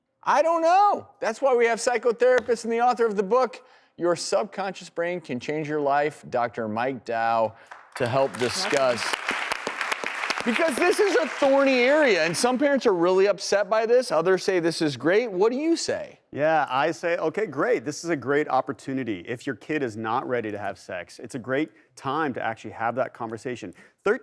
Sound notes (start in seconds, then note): 7.4 applause